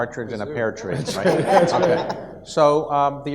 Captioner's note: audience laughs